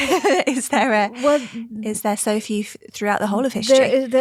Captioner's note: laughs